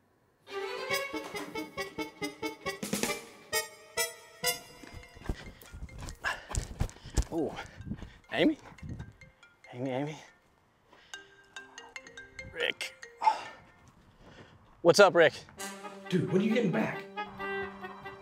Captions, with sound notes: (tense music) (phone chimes) - Oh. Amy? Amy, Amy. (groans) Rick. What's up, Rick? - Dude, when are you getting back?